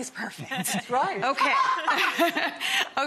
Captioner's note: group laughs